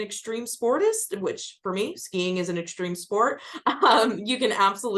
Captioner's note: chuckles